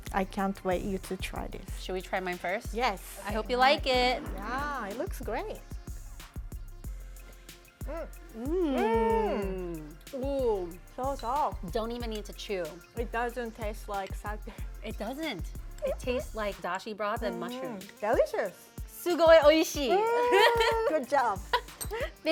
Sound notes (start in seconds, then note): 7.3 approving noises; 14.4 laughs; 19.0 speaking Japanese